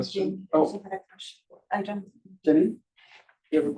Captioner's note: faintly speaking